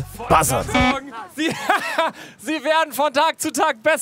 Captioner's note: lacht laut